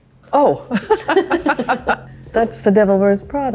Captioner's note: Meryl and Anne giggling